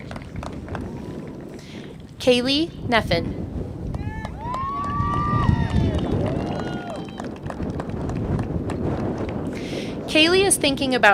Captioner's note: applause